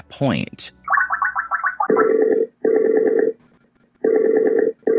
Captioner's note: dialing sound